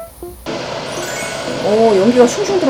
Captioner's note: smoke whooshing